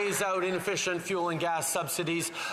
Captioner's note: some Applause